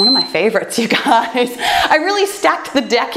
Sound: timer beeping; laughs

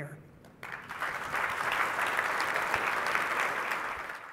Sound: clapping

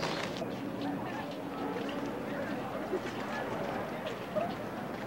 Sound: chatter

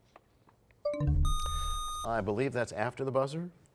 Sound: bell chimes, time expires; buzzer sound

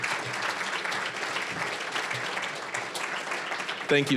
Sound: applause

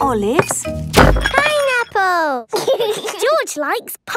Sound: bangs; laughs

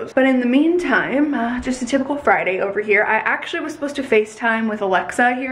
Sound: none

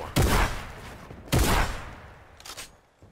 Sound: gun bangs; gun clicks

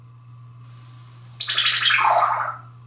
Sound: laser sound

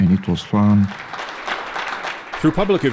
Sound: clapping

